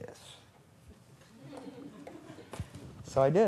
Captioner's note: laughter